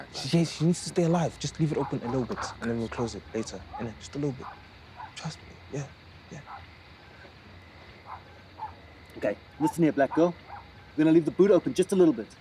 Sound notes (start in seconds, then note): none